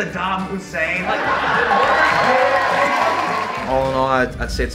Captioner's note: audience cheers and applause